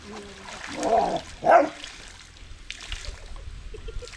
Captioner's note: dogs barking, woman laughing